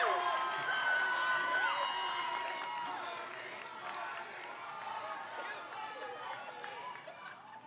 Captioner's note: crowd